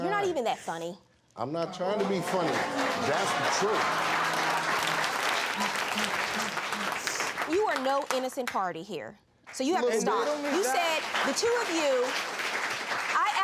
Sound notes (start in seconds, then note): 2.0 applause